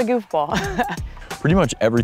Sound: chuckles

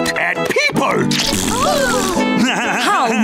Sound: doing raspberries, laughing; crying

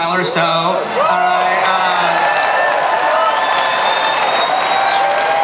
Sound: audience cheering

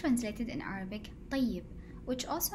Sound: speaking Arabic

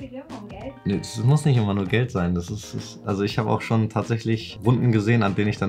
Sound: speaking foreign language

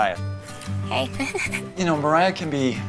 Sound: laughs

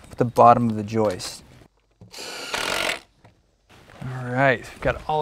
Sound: drill whirring, no additional audio

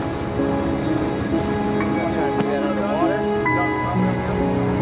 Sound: crew murmurs

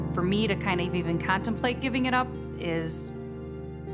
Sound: none

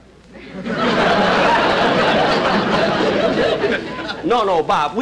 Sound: audience Laughing

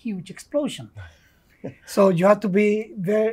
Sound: laughs

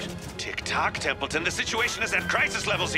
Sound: none

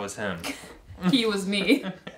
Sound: laugh

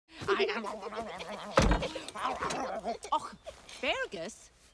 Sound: Merida giggling

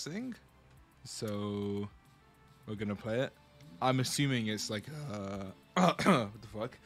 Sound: cough

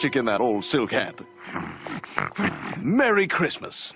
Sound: lois growling

